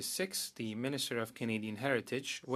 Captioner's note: speaking French